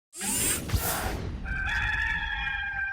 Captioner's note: robotic whoosh; rooster crows